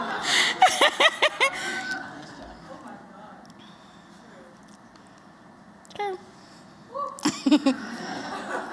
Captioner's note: laughter